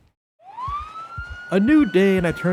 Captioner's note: siren